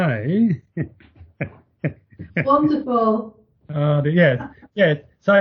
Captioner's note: chuckles